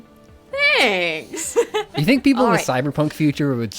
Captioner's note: laughs